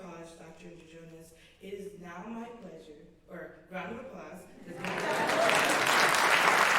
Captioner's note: applause